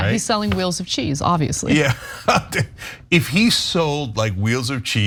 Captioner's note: laugh